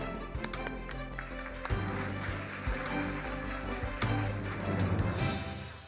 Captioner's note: audience applauding; gentle music